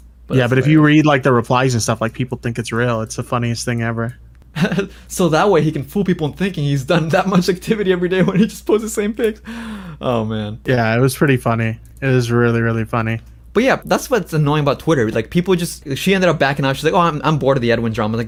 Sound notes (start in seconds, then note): 4.5 laughs